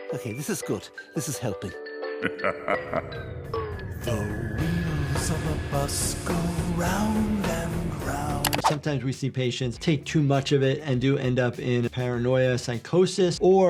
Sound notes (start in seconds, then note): 2.2 evil voice laughing